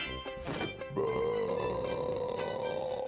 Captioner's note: belching